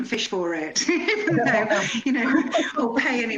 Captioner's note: laughter